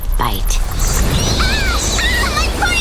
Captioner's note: bats squeaking